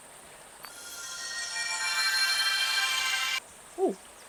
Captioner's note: MystiTech meeting alert